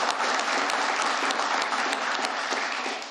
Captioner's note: applause